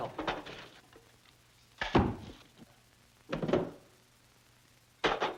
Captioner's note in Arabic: سكين تصطدم بالكتاب